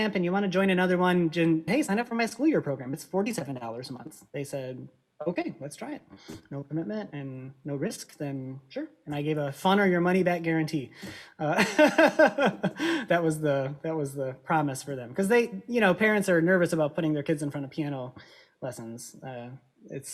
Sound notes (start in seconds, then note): 13.1 both laugh